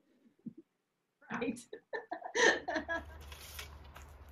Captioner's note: laughs